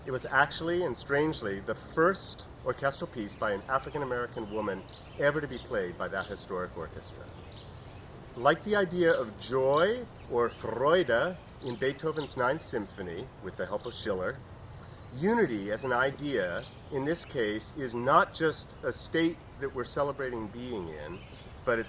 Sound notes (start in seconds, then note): 9.8 speaking in foreign language